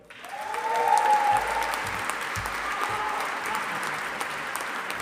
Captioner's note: audience applauding